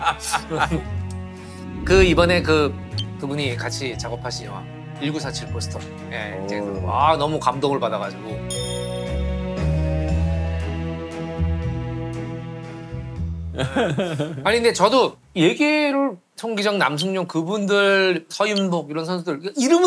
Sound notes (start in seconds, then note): 13.6 giggling